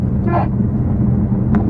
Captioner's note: horn honk